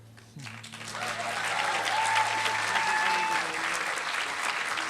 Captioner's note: applause